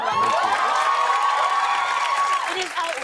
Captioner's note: cheers and applause